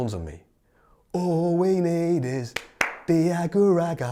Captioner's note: claps hands; laps his hands